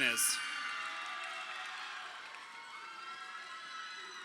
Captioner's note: crowd cheering